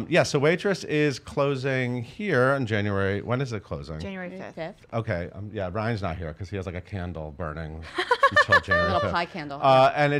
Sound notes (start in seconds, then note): 7.9 laughs